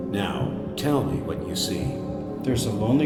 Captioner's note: disembodied Voice